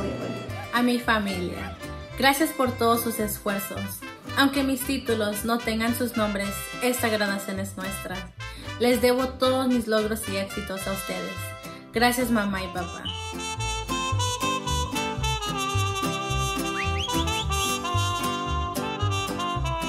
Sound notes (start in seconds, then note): 0.7 speaks in foreign language